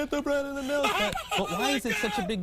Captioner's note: laughter